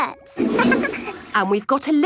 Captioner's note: toilet flush